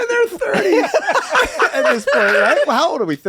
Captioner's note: all laughing